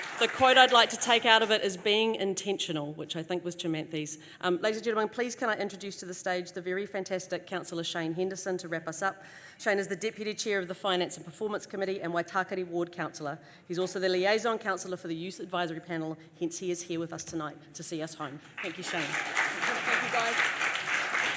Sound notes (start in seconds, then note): 18.4 applause